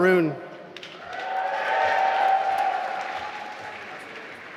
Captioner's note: applause